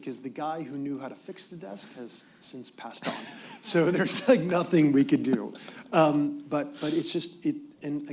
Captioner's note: laughter